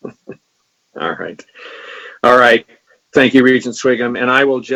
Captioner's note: laughs